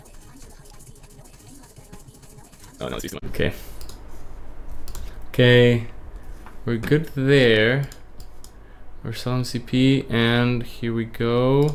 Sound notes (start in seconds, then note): none